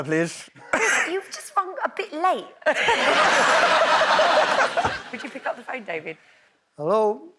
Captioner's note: laughs